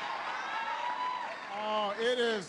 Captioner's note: applause